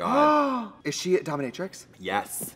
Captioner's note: gasps